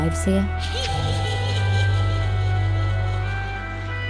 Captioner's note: child giggling